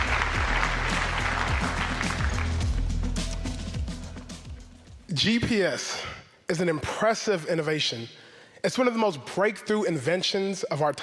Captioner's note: applause